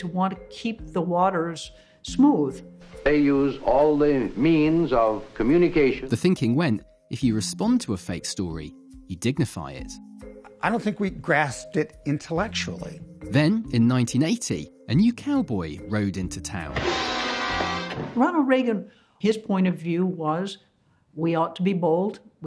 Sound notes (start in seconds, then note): 16.8 pow